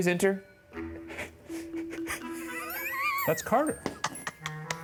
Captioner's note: laughs